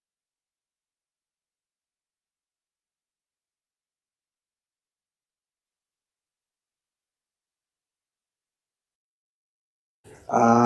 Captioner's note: silence